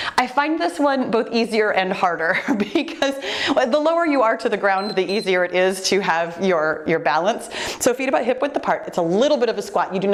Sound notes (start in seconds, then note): 2.6 laughing; 4.7 timer beeps